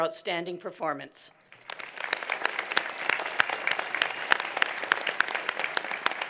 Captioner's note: applause